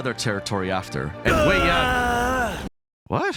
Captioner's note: groans Loudly